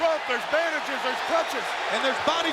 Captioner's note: audience cheering